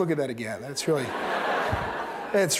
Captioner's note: laughter